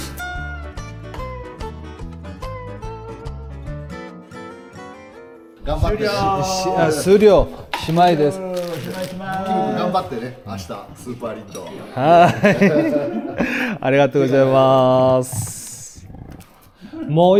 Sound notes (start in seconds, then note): 11.9 laughs